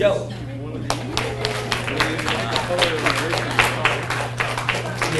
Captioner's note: audience applauds